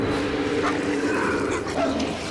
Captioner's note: barks